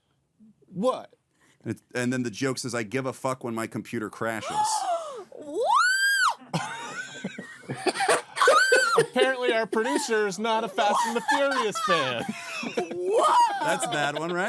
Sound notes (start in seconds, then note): 4.4 gasps; 8.4 screams; 9.2 laughing